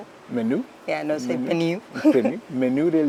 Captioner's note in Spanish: acento francés